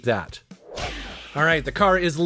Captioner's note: screen fizzles